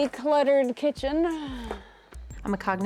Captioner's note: sighs